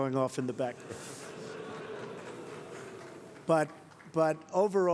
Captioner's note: laughter